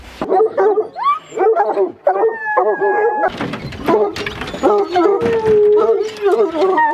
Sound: dogs barking and howling

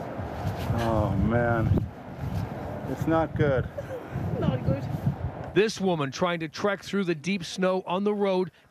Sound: laughter

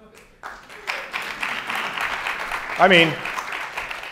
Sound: audience applauds

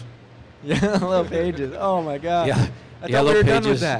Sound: laughter

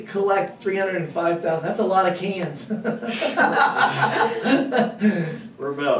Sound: laughter

